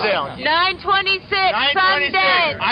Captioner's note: voiceover